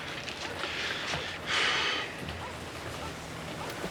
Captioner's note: exhales